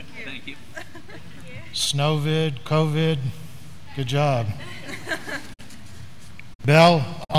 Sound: graduands laughing

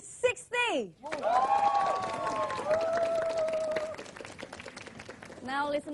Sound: applause

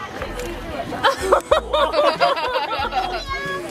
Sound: laughs

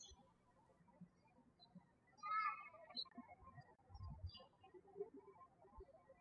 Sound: birds chirping

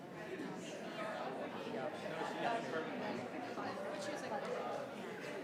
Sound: members chattering

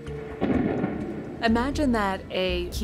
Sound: thunder

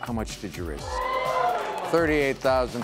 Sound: oohing

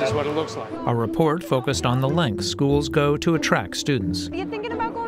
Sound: voice-over

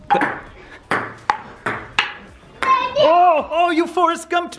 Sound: ball clacks

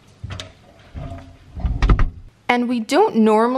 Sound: fridge door closing

